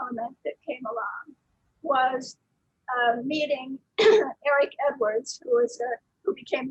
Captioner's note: clears throat